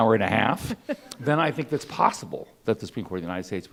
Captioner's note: laughing